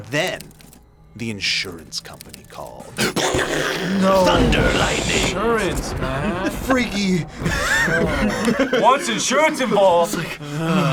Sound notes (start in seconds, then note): 4.0 mimics thunder; 7.2 laughs